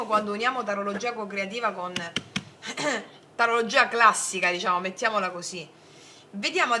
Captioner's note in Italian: schiarire la voce